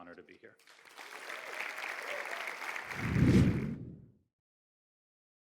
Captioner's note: audience applauding